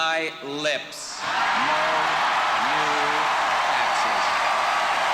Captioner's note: audience cheering and applauding